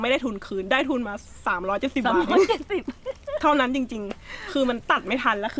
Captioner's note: laughed